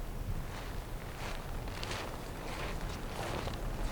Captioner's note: snow crunching